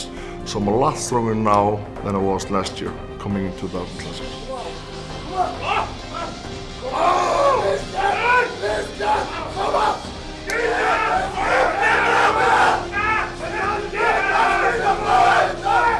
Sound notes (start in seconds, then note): 5.4 yelling, screaming, raising the blood pressure